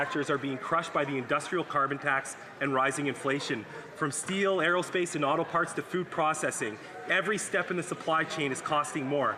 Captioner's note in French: voix de l'interprète